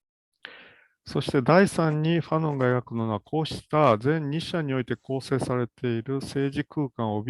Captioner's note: speaks in Japanese